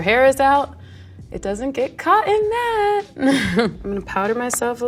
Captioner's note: laughs